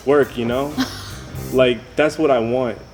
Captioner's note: chuckles